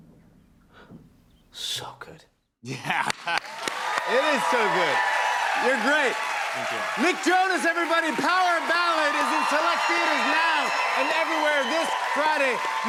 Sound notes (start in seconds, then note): 4.0 cheers and applause